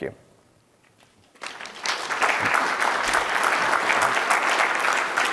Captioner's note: audience applauding